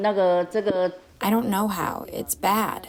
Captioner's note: through translator